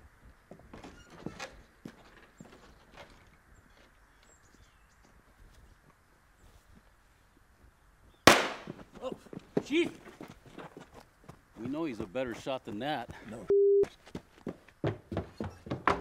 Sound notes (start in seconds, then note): 8.2 gunshot popping